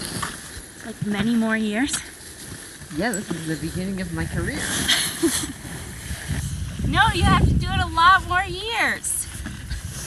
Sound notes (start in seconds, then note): 4.7 laughs